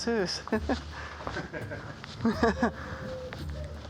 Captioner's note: laughing